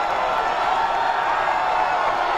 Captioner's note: cheering